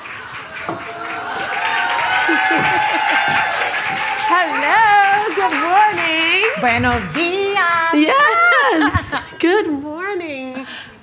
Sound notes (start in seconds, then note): 2.3 laughing; 3.3 attendees clapping and cheering; 9.7 laughing